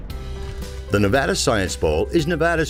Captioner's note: crashing sound